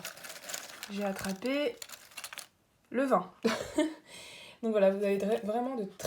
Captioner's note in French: rires